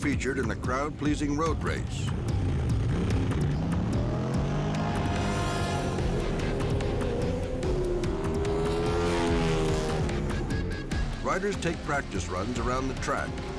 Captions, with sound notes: in a crowd-pleasing road race. (engines growl) (engine roars) Riders take practice runs around the track.